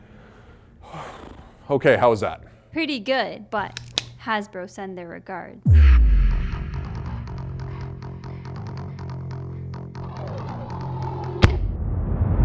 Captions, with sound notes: [sigh] Okay. How was that? ???: Pretty good, but... [Nerf gun being loaded] Hasbro send their regards.